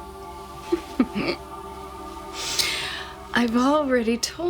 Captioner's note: laughs